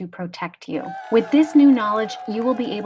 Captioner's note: cheering; crowd